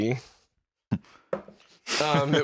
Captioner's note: knock-knock!